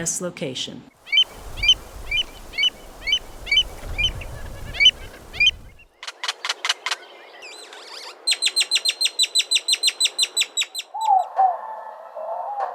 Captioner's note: examples of bird song